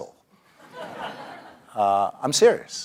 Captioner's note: laugh